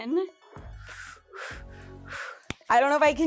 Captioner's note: breathing heavily